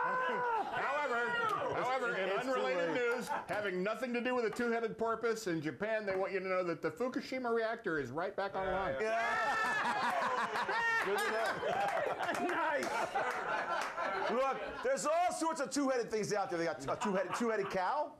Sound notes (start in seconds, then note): 11.8 laughter; 12.6 bell Rings